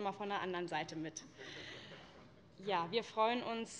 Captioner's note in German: Vereinzelt Heiterkeit